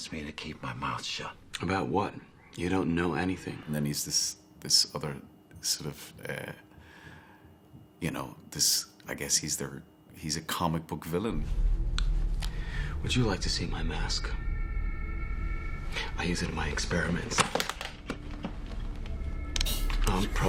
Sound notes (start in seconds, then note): 17.4 suitcase locks clicks; 19.6 gas hisses